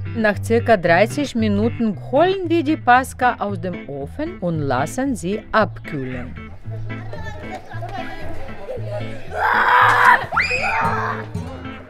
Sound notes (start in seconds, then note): 6.3 sounds of children playing